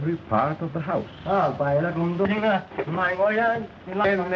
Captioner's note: speaking foreign language